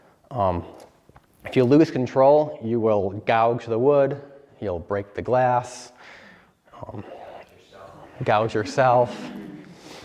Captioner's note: laughter